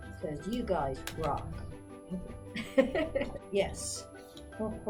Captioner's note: laughs